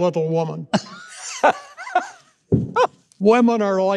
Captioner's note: laughing